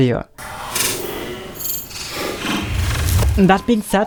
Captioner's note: low-pitch digital sounds